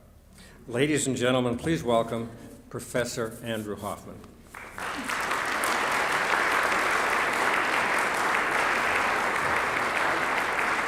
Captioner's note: applause